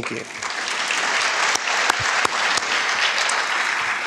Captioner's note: crowd applauding